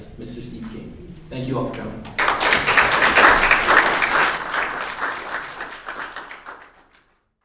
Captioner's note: applause